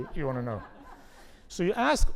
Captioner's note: laugh